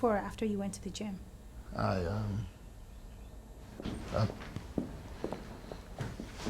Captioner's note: footsteps tapping